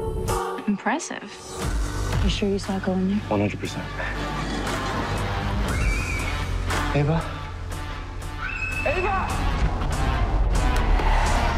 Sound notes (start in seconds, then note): 5.6 screaming; 8.3 screaming